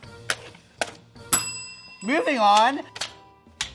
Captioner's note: bell dings